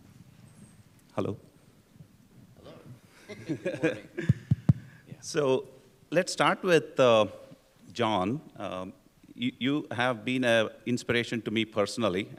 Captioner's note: laughter